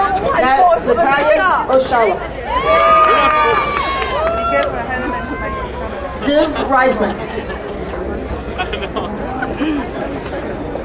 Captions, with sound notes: Mattias O'Shaw. (crowd cheering) Ziv Riseman.